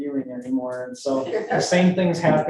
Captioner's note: group laughs